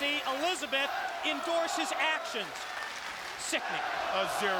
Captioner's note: audience applauding; audience cheering